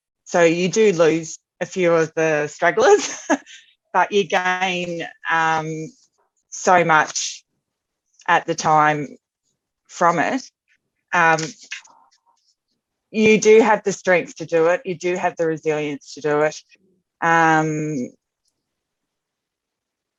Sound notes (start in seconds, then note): 2.8 laughs